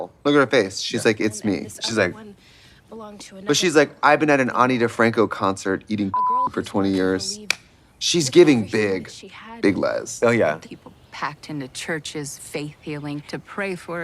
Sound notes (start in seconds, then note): 6.1 beep; 7.4 hands clap